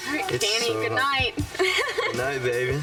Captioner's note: laughing